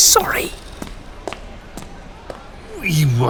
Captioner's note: Yoba's footsteps fade into the party